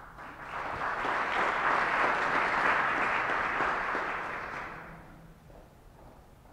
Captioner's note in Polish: oklaski